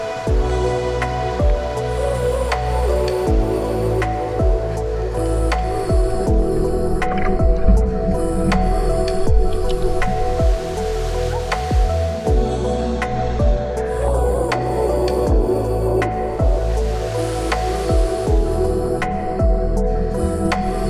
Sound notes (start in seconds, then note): 5.6 water gurgling